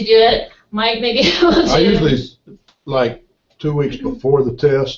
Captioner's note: laugh